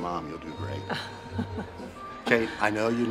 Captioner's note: Kate chuckles